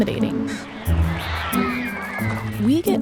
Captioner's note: children screaming